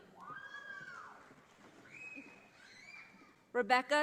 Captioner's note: audience applauding